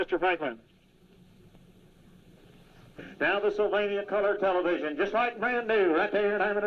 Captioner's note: auctioneering